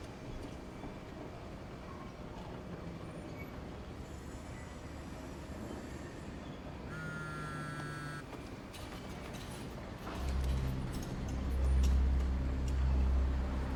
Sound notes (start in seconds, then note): 4.1 train brakes screeching; 6.9 cellphone buzzing; 10.2 tense ominous music